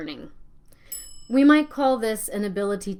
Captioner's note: bell rings